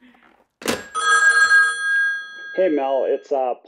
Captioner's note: phone rings